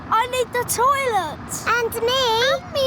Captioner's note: none